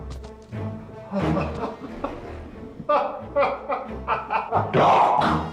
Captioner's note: laughs gleefully